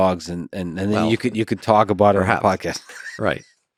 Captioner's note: laughs